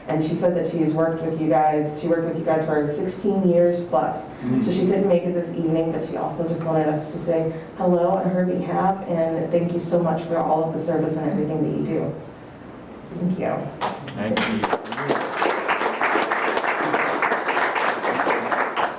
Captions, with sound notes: And she said that she has worked with you guys. She worked with you guys for the 16 years plus, so she couldn't make it this evening, but she also just wanted us to say hello on her behalf. And thank you so much for all of the service and everything that you do, thank you. [Group Applause]